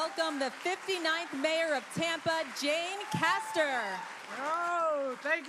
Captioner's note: applause